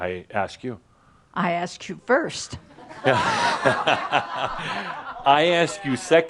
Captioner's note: laughter